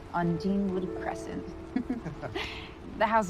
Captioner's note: both chuckling